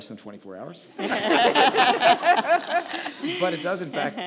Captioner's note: audience laughs